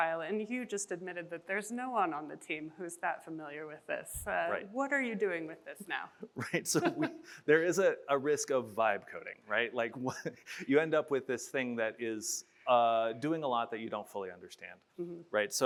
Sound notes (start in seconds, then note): 6.4 chuckles